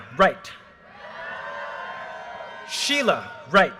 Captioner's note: audience cheers and applause